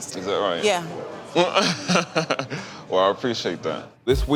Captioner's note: laughs